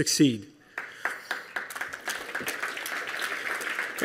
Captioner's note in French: Applaudissements